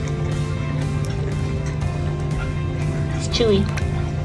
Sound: background music; gentle water splashing noise; background music; gentle water splashing noise

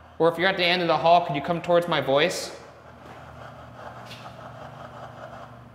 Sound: door clanks

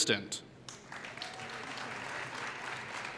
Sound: applause

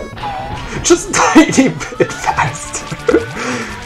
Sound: bursts in laughter

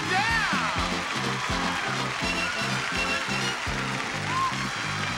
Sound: audience applauding

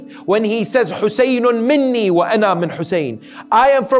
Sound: Arabic

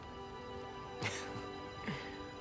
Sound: laugh

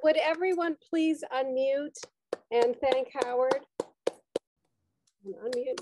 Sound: clapping

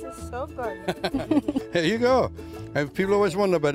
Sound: laughs

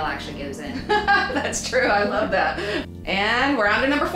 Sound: laughs

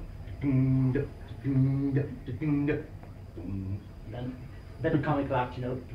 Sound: man making guitar noises

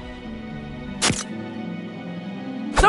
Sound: camera snaps

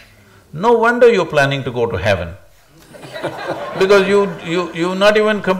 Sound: laughter

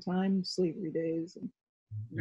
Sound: murmurs

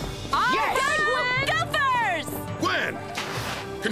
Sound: Gopher Campers Cheering

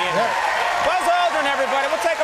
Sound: cheering

